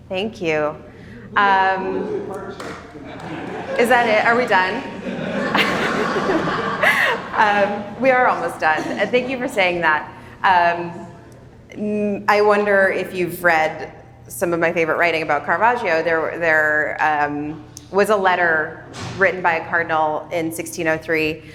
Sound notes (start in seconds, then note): 5.5 attendees laughing